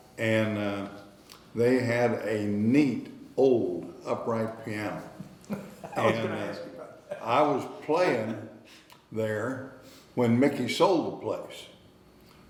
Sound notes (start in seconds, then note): 5.2 laughing